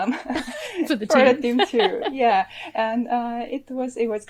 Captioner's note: both chuckles; laughs